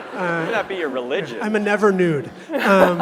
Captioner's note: laughter